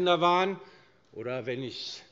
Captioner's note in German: „Gender“ englisch ausgesprochen